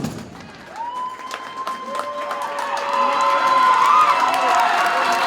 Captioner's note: audience cheers and applauds